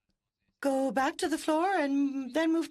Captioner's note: speaking French